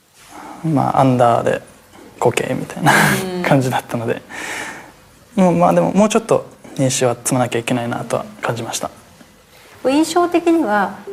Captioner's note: laughs